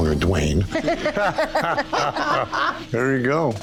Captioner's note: laughter